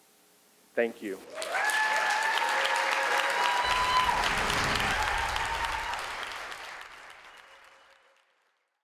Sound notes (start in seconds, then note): 1.2 people cheering; 1.2 people applauding